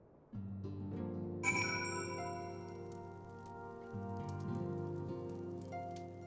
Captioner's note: bell